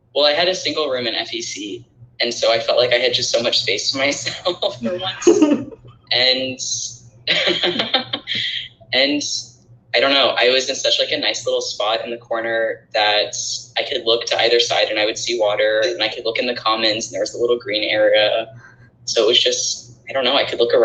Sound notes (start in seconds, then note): 5.6 laughing